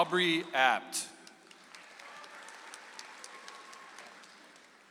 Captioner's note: audience applauds